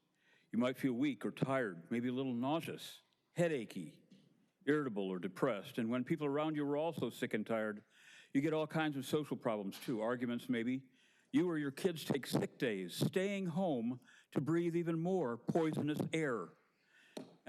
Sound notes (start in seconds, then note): none